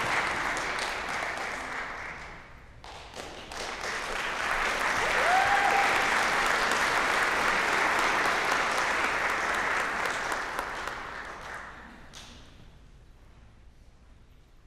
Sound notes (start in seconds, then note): 4.4 applause, cheering; 7.4 applause